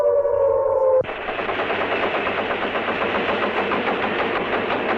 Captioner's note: machinery sputtering